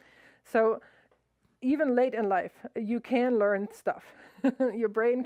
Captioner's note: laughs